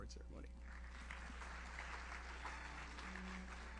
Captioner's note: audience applauds; enchanted music